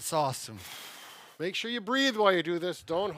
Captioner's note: deep breathing